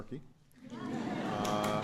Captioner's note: laughter